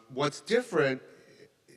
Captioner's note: none